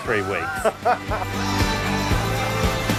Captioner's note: laughing; energetic guitar music